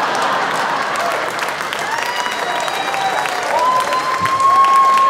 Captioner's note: audience cheering and applauding